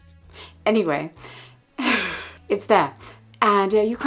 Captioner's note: chuckling